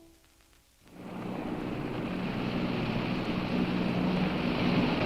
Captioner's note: distant boat engine hums